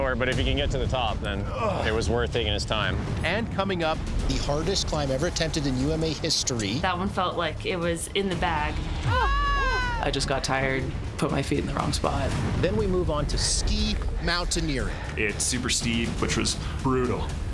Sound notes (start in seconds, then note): 9.1 screaming loudly